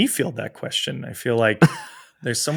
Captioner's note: chuckles